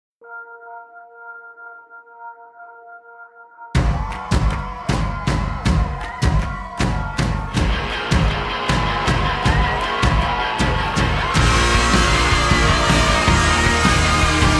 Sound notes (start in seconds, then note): 3.8 crowd cheering; 3.8 uplifting, rock music